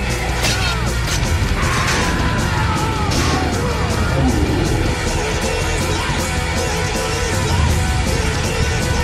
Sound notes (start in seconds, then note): 0.2 argh!; 4.0 roar